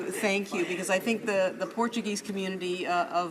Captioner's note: laughing